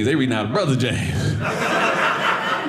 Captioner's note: audience laughing